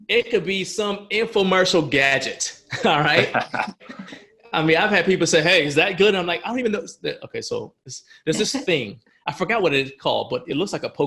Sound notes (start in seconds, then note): 2.2 laughing